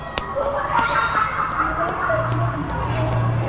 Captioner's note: laughter